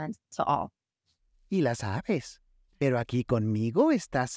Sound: speaking Spanish

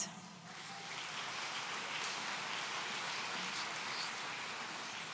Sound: audience applauds

